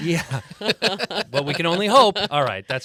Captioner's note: group laughing